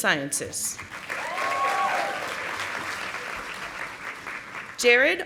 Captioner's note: audience applauding